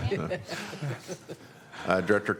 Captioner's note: laughter